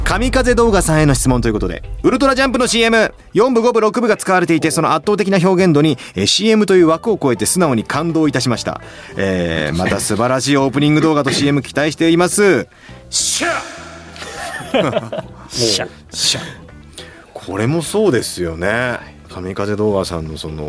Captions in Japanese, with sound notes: 神風動画さんへの質問ということでウルトラジャンプの CM、4部、5部、6 部が使われていて、その圧倒的な表現度に、え、 CM という枠を超えて素直に感動いたしました。え、また素晴らしいオープニング動画と CM期待しています。しゃ、[咳払い] [笑い] し、 これもそうですよね。神風動画さんのその代表的なお仕事と言ってもいいと思うんですけれども。はい。